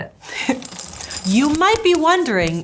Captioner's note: chuckles